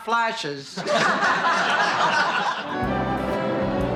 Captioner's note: laughing